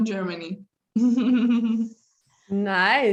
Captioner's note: laughs